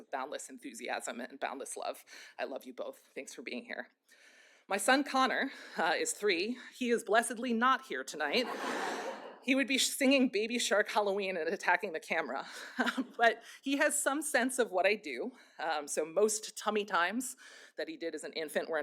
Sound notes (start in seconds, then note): 8.3 laughter